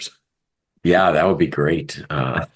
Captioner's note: laugh